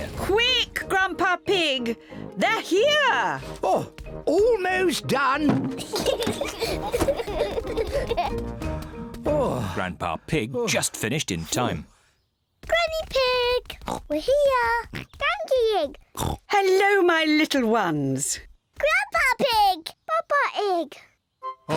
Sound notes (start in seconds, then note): 5.8 both giggling; 8.7 sighs; 16.1 oinks